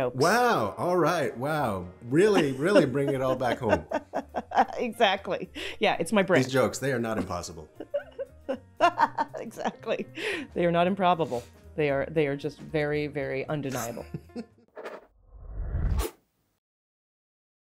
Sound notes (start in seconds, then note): 4.7 laughing; 7.6 laughing; 14.8 audio logo